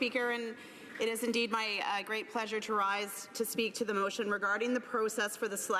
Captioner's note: applause